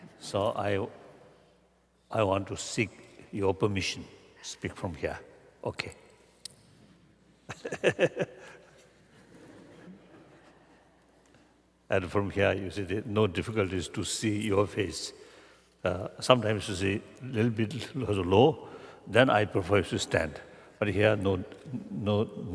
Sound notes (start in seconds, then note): 11.5 laughter